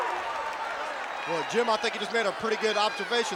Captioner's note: crowd cheering